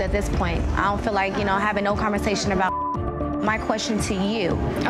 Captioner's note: beep